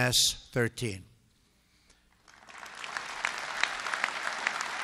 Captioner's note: applause